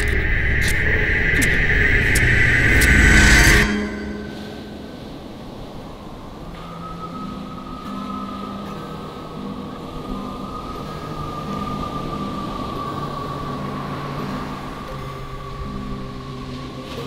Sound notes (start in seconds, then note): 4.0 waves splashing